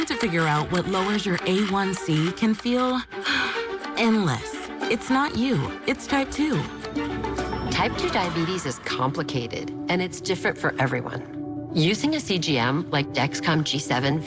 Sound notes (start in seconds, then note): 5.0 sigh